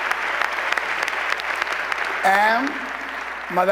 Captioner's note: applause